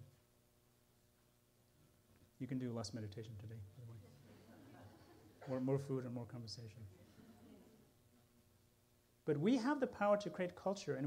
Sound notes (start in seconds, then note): 4.0 laughter